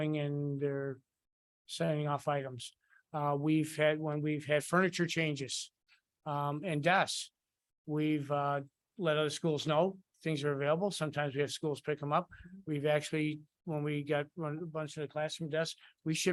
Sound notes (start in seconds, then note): none